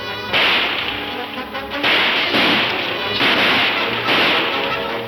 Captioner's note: guns firing